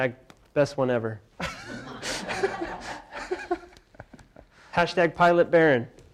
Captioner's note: laughter